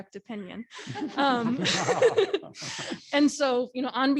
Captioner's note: laughing